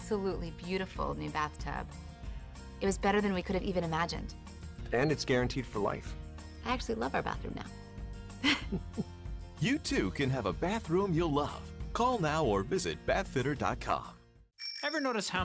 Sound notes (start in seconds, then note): 8.4 laugh